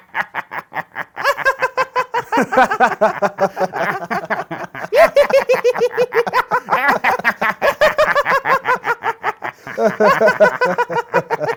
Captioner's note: Everyone laughs as America burns